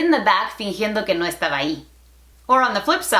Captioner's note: Spanglish